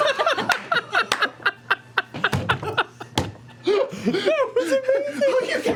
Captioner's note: laughing